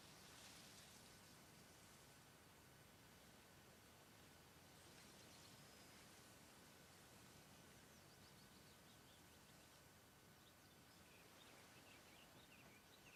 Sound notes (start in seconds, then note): 1.8 leaves rustling